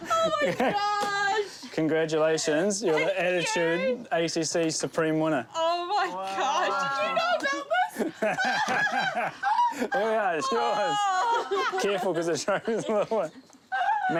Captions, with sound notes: - Oh my gosh! - Congratulations. You're the Attitude ACC Supreme winner. - Thank you! Oh my gosh. Did you know about this? (LAUGHS) - There we are. That's yours. Careful, cos it's... (CHUCKLES)